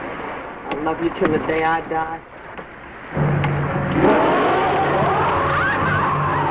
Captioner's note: Mary-Belle screaming; creature roaring; Colonel Cabeza speaking in Spanish